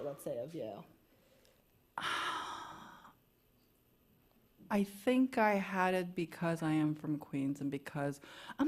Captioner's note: exhales